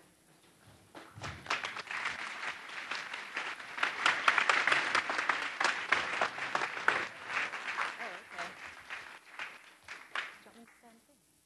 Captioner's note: applause